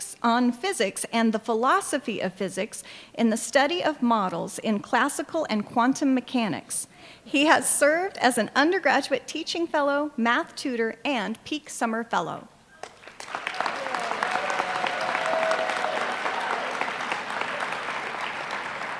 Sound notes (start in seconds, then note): 12.8 applause